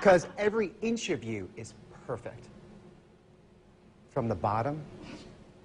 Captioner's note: laughs